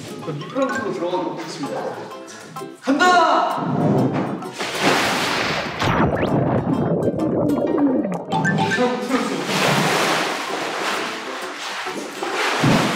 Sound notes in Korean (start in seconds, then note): 5.8 꼬로록